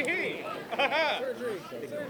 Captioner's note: chatter